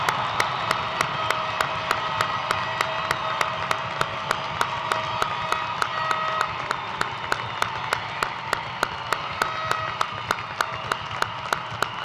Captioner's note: cheers and applause